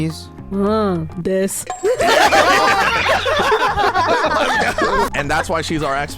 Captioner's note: everyone laughing